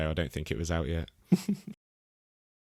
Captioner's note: laughs